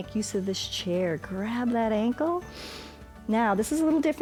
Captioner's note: inhales